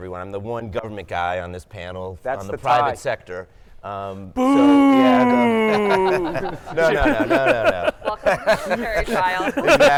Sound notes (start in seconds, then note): 4.4 mock howling; 6.1 laughter drowns out speaker